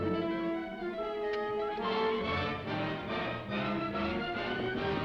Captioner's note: dramatic music; horse hooves clopping; dramatic music